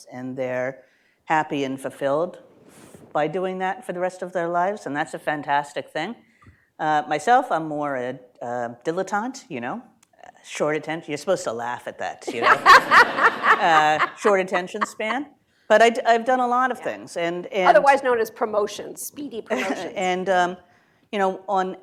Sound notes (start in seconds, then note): 12.2 laughter